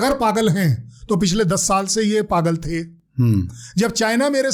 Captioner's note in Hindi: गला साफ़ करने की आवाज़